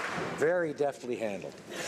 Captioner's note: applause